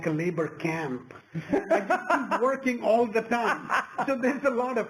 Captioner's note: laugh